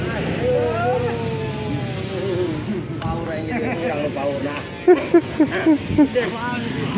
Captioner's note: laughs